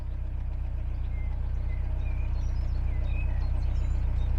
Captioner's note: chirping